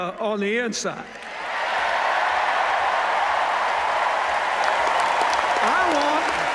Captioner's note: cheers, applause